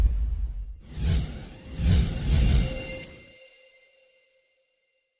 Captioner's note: whoosh